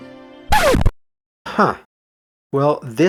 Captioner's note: record needle scratch